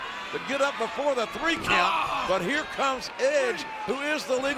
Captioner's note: John Cena grunting